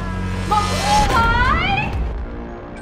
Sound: buzzing

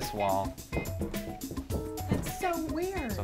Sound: knock on wall

